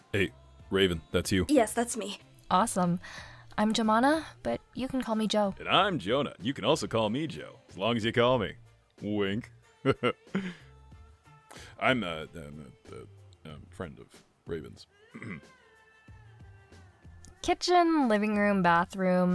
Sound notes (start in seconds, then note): 15.1 Jonah clears throat